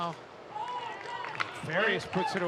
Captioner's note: audience cheering and clapping